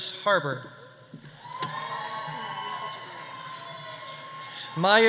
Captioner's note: audience cheering; audience applauding